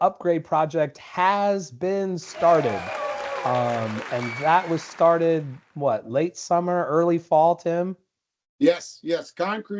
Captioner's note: cheering Crowd